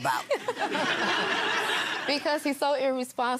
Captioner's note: laughing